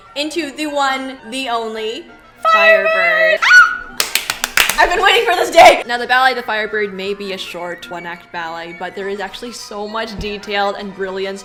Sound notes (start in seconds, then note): 3.4 happy squeak; 4.0 clapclapclapclapclapclap